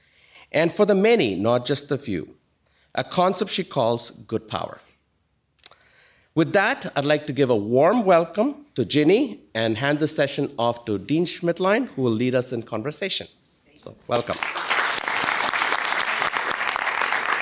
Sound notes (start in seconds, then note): 14.1 applause